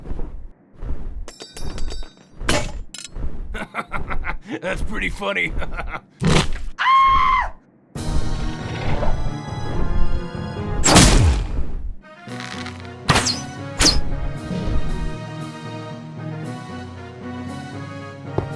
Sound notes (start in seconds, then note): 4.3 laughs; 6.8 shrieks femininely